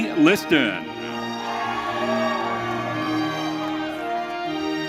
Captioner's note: audience cheering